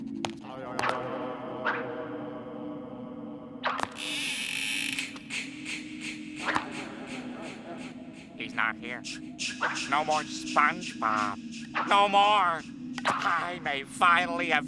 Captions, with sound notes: [echoing] [creaking] He's not here. No more SpongeBob. No more. I may have finally found